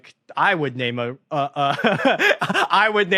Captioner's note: laughs